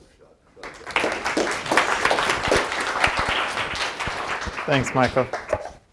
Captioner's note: applause